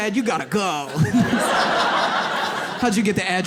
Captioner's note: audience laughs